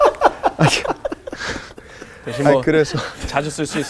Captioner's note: laughing